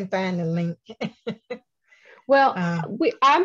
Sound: chuckles

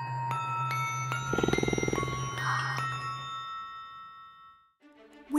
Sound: growl

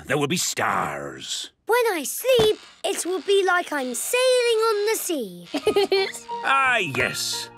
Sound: laughing

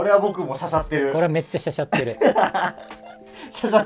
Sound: laughing

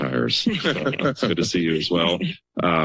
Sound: laughter

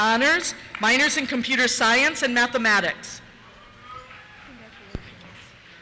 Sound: cheers

